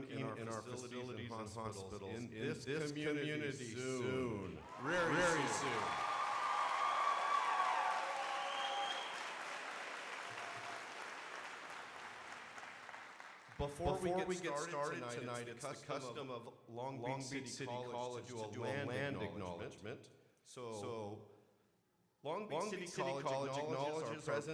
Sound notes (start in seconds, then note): 6.2 crowd applauding